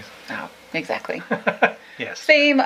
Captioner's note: laughs